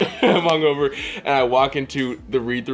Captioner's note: laughs